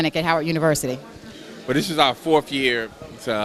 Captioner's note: background crowd talking